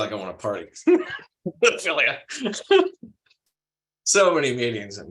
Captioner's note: laughs